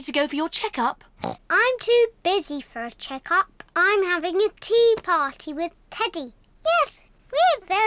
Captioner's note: oinks